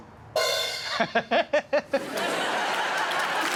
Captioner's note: several beats and a crash; laughing